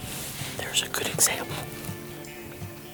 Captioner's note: whispers